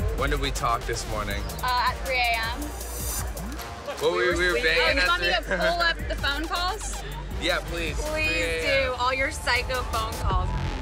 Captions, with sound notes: When did we talk this morning? - At 3 a.m. We were banging yesterday (laughing). - You want me to pull up the phone calls? - Yeah please. - Please do, all your psycho phone calls.